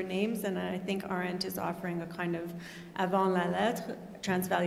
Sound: non-english speech

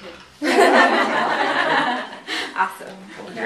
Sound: laughter

